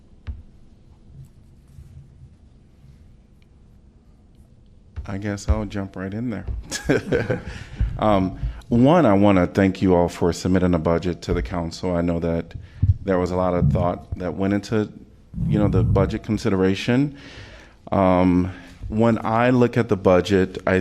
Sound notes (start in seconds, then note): 6.6 laughter